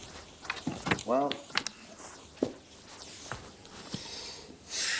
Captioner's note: sighs